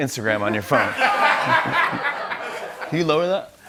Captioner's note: laughter